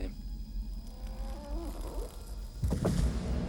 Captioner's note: thudding; groaning